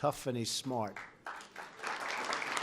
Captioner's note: applause